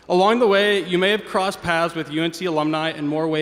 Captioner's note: none